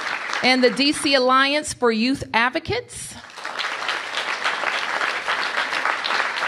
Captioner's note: applause